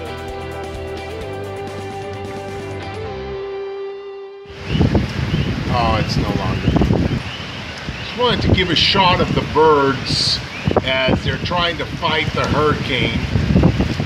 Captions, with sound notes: (birds and wind noises) Oh it's no longer... Wanted to give a shot of the birds as they're trying to fight the hurricane